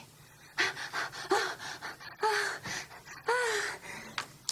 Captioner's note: Lulu panting